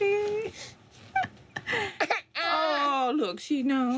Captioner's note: cries